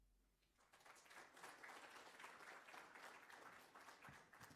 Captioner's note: applause